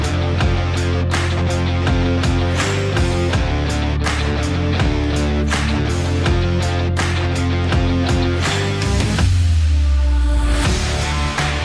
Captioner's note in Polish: Aplauz